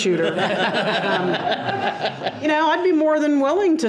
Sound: board members laugh

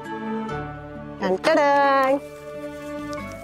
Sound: mimicking entry music

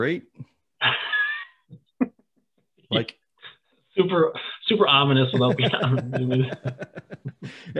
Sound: chuckles

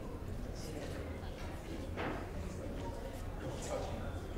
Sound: audience murmuring

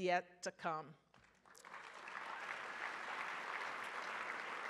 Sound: audience applauds

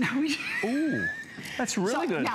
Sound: laughter

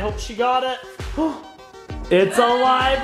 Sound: gasps

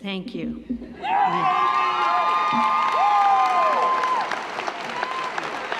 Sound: audience cheering; audience applauding

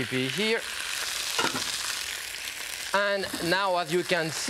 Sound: sizzling

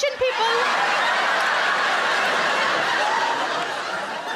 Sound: crowd laugh

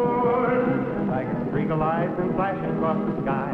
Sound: none

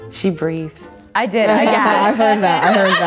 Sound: laughs

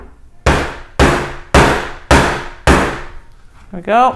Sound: pounding

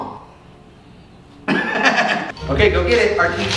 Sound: laughs

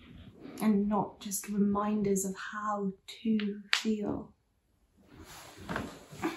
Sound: none

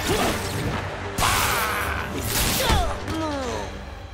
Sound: grunting

